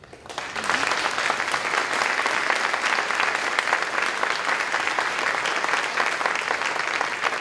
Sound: applause

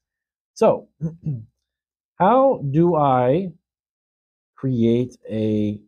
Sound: clears throat

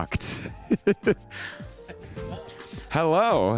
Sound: Conrad laughing

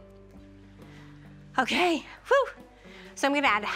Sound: exhales

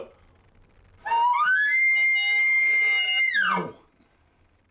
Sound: elk call

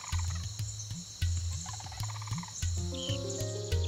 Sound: wildlife noises

